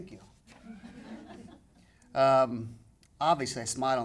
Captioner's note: audience laughing